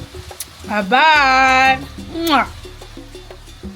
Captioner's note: kisses